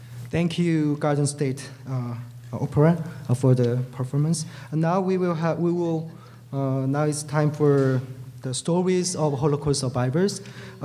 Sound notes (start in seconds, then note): none